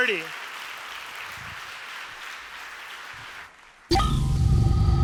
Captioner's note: applause